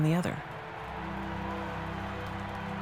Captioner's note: crowd cheering